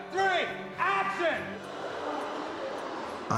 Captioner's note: kids gasping